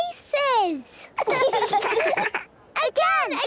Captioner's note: children laughing